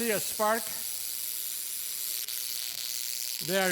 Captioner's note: tesla coil's current buzzing